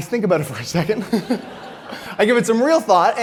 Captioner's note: audience laughs